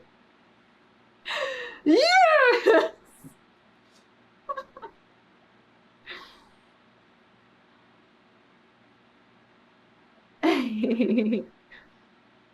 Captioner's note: laughs